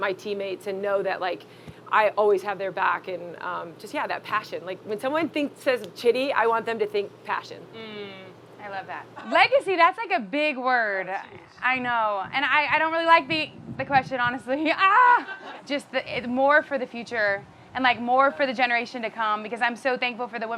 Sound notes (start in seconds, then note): 14.8 laughs